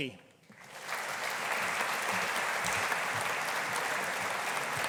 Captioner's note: audience applauding